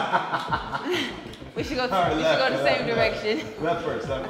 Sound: laugh

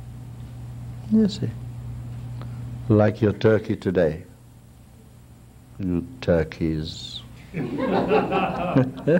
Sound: laughter

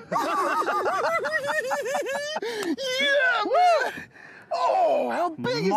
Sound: both laughing

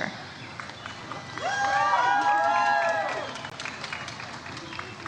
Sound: audience cheers and applauds

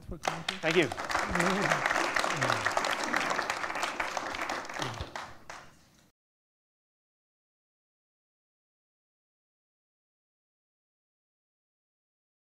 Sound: applause

